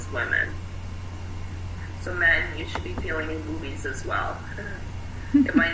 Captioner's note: laughing